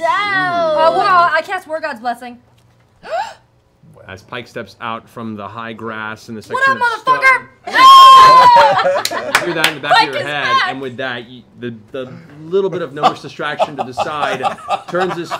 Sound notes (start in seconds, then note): 3.0 gasps; 8.0 laughing